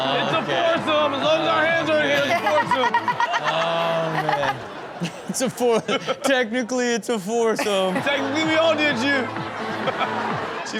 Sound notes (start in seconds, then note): 2.2 Chanel laughs